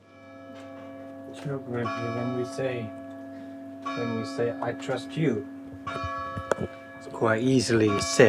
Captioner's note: church bell is ringing